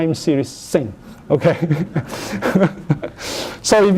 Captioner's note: laughter